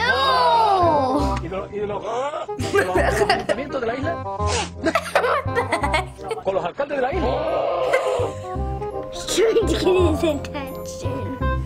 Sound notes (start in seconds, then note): 2.6 chuckling; 4.8 laughing; 6.8 ibex brays loudly; 6.8 laughs; 7.8 chuckling